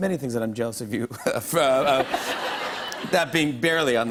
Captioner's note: laughter